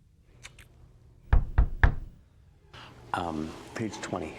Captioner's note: knuckles rapping